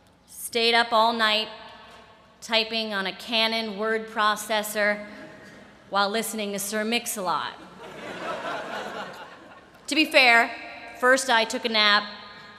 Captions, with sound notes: stayed up all night, typing on a Canon word processor while listening to Sir Mix-a-lot. [LAUGHTER] To be fair, first, I took a nap.